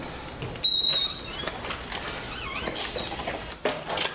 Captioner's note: door creaking